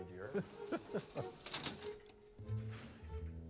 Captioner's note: chuckles